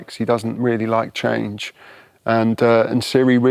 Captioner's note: none